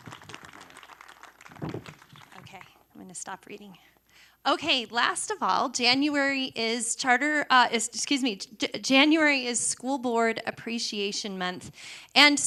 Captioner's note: applause